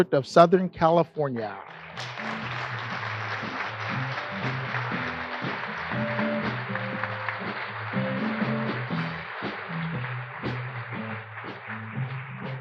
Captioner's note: applause